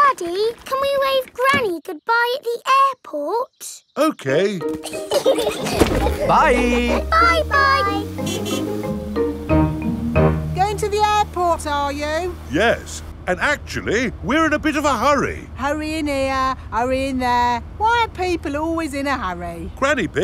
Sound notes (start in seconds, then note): 4.7 laughing; 8.3 horn honking